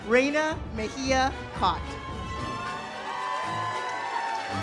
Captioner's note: audience applauds; uplifting music